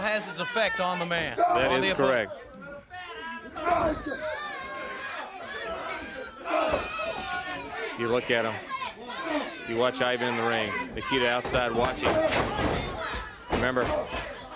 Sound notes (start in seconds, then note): 4.0 crowd chatter